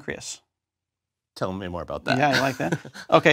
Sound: laugh

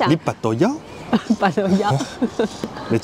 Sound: laughs

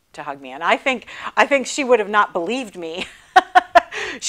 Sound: laughing

